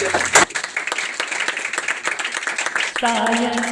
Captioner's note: applause